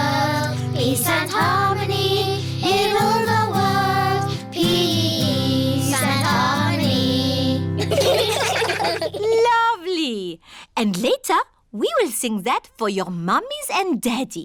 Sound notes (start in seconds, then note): 7.8 children giggling